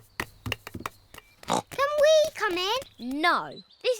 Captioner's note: snorts